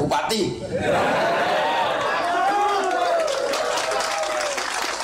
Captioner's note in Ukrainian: Оплески